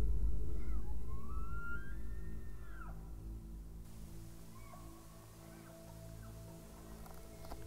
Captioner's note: gentle music; elk bugling